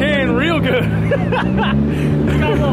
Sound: laughs

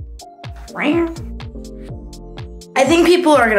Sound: upbeat music continues; imitates cat meow

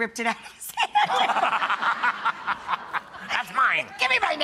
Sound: laughing

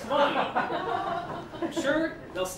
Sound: laughter

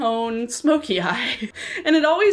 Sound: chuckles

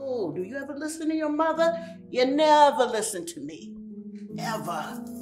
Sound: footsteps

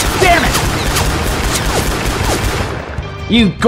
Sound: Continues Firing Boomstick Rapidly

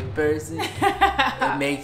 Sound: laughs

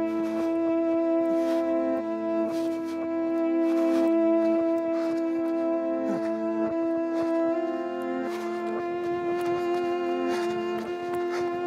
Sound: running sounds

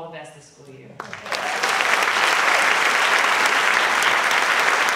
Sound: audience clapping

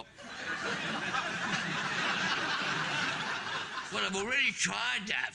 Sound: audience laughing

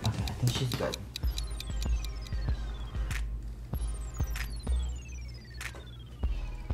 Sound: ticking

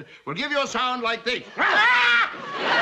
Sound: loud grunt; Lucy screams

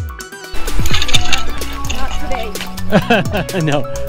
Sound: chuckle

